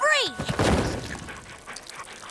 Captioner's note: crash